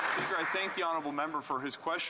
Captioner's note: some Applause